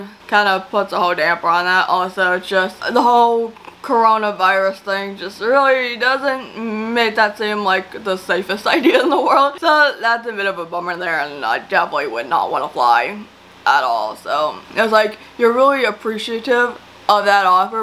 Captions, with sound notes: kind of puts a whole damper on that. Also, just the whole Coronavirus thing just really doesn't make that seem like the safest idea in the world. (LAUGHS) So that's a bit of a bummer there. And I definitely would not want to fly. At all, so... It's like, you're really appreciative of that offer,